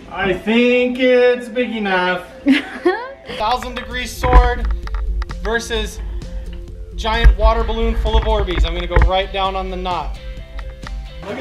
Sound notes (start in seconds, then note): 2.4 laughs